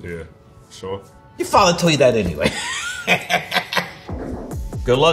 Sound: laughs

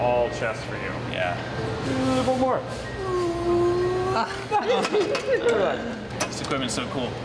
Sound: laughing

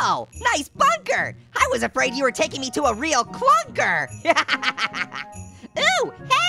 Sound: laughs

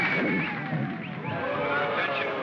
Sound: voiceover distorts and cuts out; audience boos; loudspeaker voice

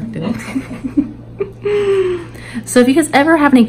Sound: laughs

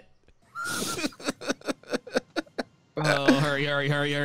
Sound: laughs

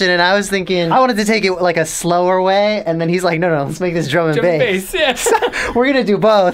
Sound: laughs

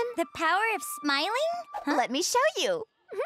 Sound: none

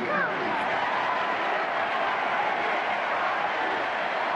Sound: crowd cheering

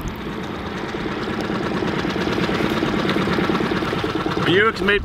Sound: boat engine purring

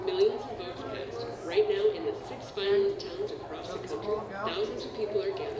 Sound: multiple voices talking

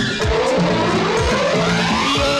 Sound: none

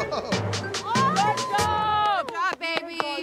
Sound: chuckles; screams

